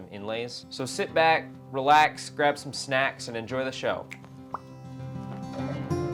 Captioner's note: snap, pop